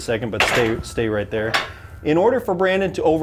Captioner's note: metal clunking